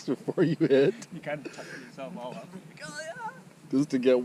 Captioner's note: squeals